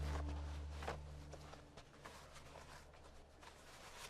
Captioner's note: wind howling